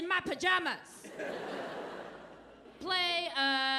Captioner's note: audience laughing